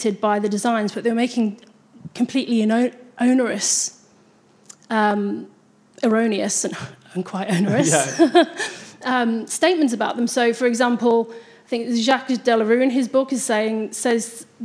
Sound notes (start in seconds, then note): 7.5 laughs